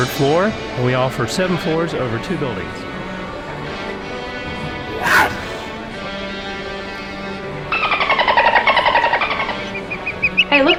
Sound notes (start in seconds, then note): 4.9 cougar scream; 7.8 dolphin noise; 9.9 bird chirps